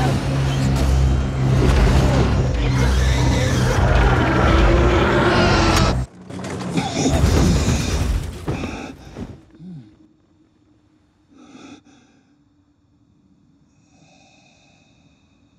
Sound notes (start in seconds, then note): 1.3 creaking noises